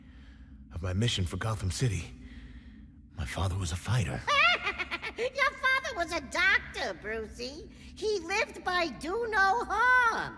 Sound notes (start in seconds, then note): 4.2 laughs